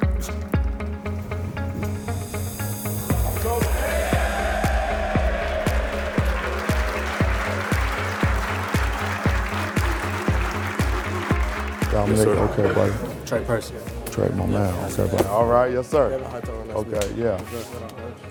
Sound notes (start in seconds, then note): 3.1 crowd cheering; 3.1 crowd clapping